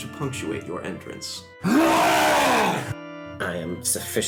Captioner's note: long wookie roar